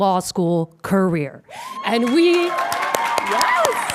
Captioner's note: audience cheering and applauding